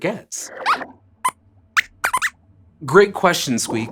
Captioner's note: squeaks squeaks